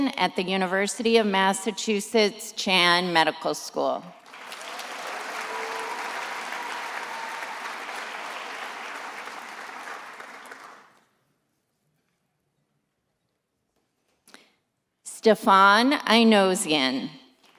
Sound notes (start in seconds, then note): 4.2 attendees applauding